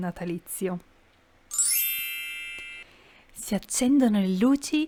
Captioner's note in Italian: suono magico